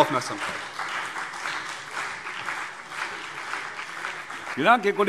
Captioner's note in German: Beifall CDU und BÜNDNIS 90/DIE GRÜNEN